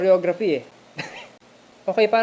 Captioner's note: laughs